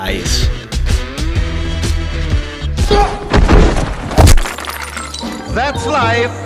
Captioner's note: impact